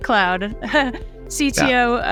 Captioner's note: giggles